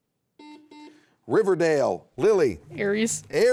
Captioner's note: buzzer beeping